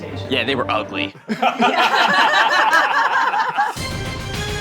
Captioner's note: all laughing; dramatic synth music